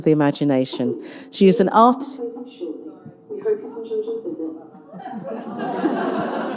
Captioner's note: PA system faintly speaking; audience laughing